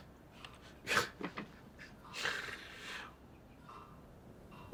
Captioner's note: chuckles